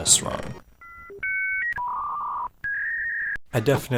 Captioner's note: fax sounds